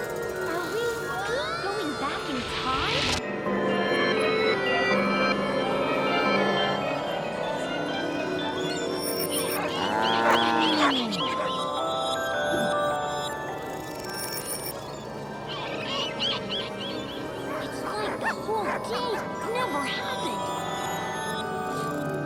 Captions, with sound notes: Are we going back in time? (bike bell chimes) (cows moo) (ice cream truck bells) - It's like the whole day never happened.